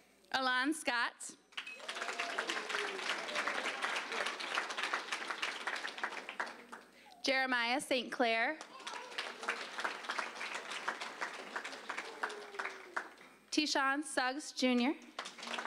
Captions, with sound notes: ALON SCOTT. (applause) JEREMIAH ST. CLAIR. (applause) TEASHAWN SUGGS, JR.